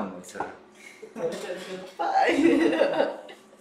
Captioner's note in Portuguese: risos